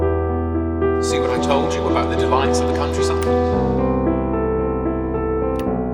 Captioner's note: voice echo